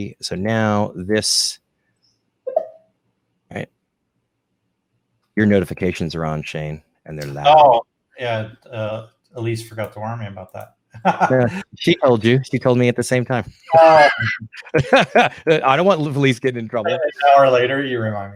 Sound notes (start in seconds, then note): 13.6 laughs